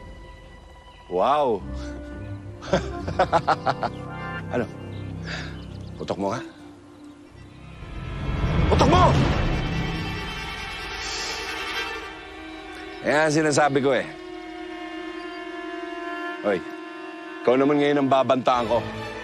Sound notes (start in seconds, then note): 2.6 chuckles